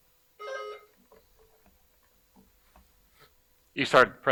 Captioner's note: buzzer buzzing